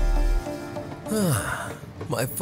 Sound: sighs

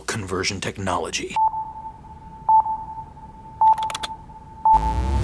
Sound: beeping; dubstep music

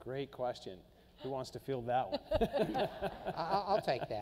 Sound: laughing

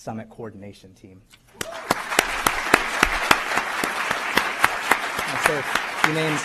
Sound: applause

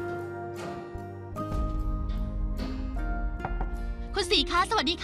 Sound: door knock

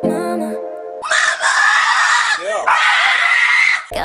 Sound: scream

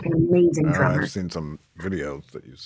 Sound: chuckles

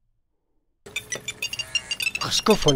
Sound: phone ringing

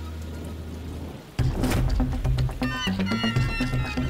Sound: raining

